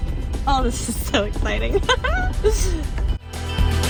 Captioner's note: giggles